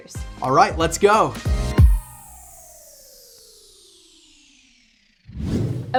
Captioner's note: machine whirring down